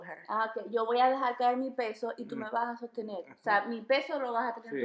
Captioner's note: in foreign language